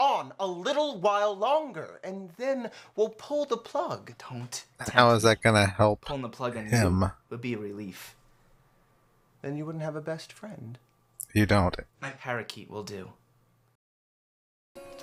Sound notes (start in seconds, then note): none